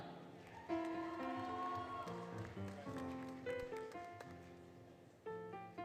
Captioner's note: applause, Cheering, Music